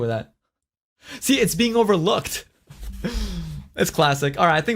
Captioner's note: laughs